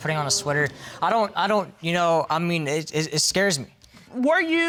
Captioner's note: stammering